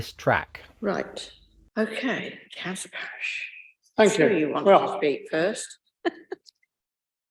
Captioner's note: laughs